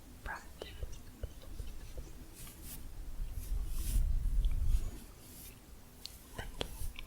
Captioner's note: stroking bristles